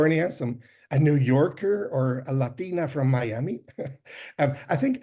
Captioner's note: chuckles